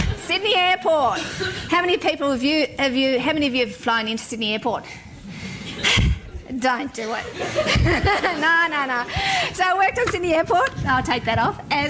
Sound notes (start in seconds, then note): 0.0 laughter; 7.2 laughing; 7.2 laughter